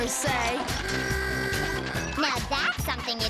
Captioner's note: horn honks